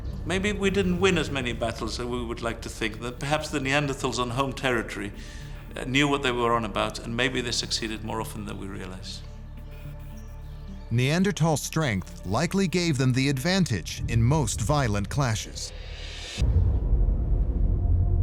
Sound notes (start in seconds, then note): 9.5 tense music; 10.1 birds chirping; 16.7 ominous music